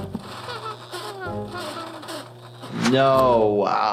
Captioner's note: flaky breathing